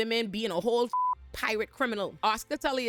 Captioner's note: beep